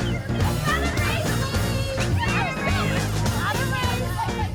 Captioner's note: chatter